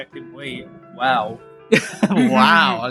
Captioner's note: laughs